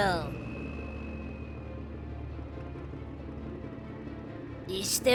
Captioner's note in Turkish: Araba sesi